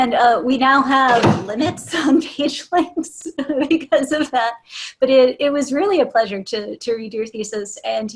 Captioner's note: laughter